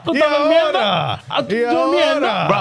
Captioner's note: speaking In Foreign Language